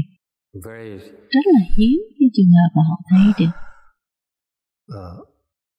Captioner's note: sigh